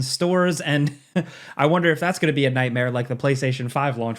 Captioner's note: chuckles